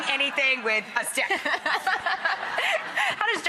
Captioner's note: laughing